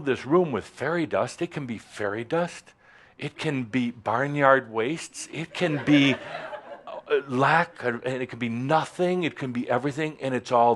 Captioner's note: giggles